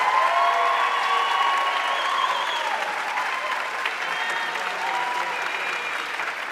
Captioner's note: audience cheering and applauding